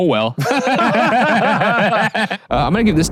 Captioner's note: both laugh